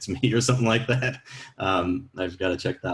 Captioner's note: laughs